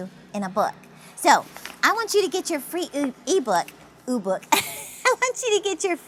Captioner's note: laughs